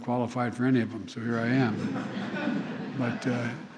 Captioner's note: laughter